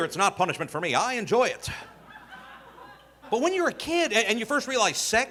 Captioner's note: audience laughing